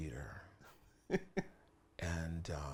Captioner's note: laughs